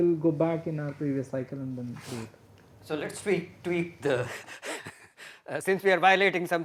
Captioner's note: laughter